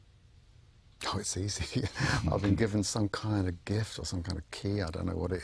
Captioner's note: laughs